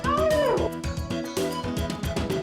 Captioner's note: howling; happy music